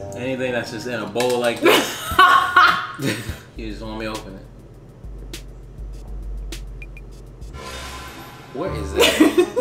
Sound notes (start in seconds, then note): 1.6 laughs; 4.8 playful music